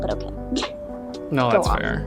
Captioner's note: chuckles